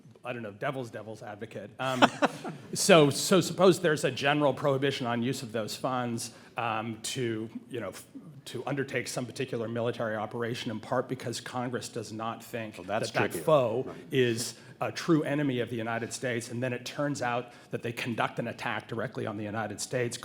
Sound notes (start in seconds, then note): 1.8 laughs